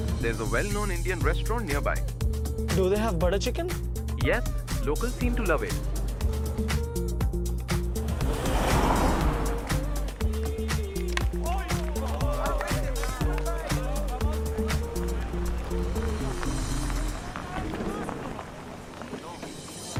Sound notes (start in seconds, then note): 10.6 shouting; 16.9 chatter